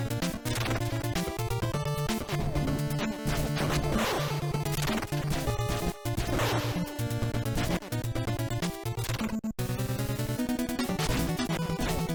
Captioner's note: game sounds